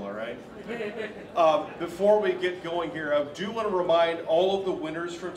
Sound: laughter

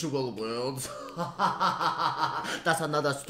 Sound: laughter

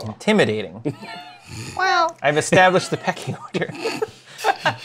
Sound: laughs

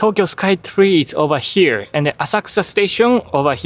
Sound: none

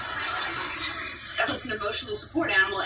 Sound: audience laughter

